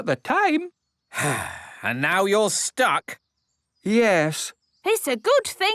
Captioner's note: sigh